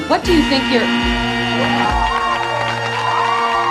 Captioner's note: clock buzzing; applause